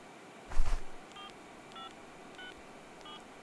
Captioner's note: Dial tone